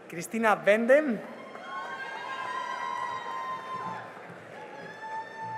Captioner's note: cheering and applause